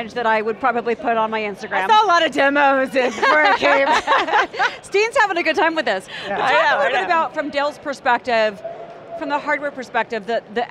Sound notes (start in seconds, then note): 3.0 everyone laughing amusingly